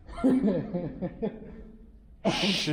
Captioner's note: laughing